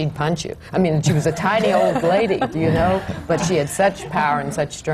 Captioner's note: laughter